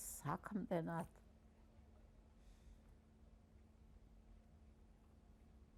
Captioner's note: pauses 6 seconds